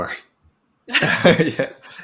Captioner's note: chuckling